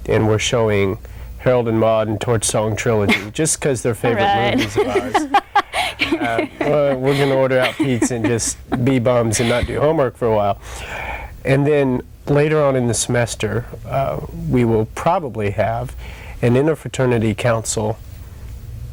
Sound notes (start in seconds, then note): 4.0 laughs